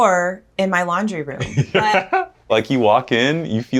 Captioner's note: laughing